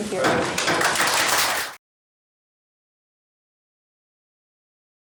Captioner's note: applause